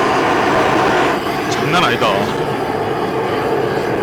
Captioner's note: fire